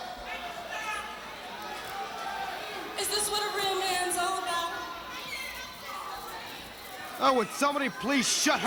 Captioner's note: crowd cheering